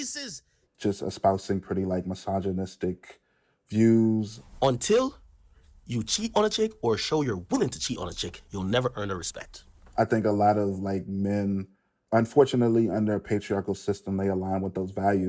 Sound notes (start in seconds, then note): 4.4 soundbite of archived recording